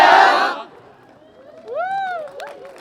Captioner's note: cheering